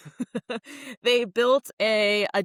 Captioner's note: laughs